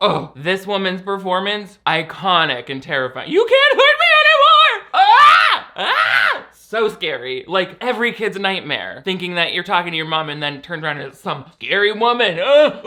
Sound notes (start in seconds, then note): 3.5 yells